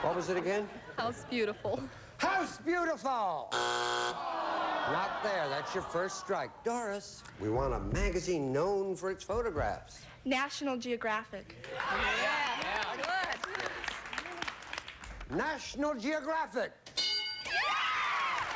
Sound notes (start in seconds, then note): 3.5 buzzer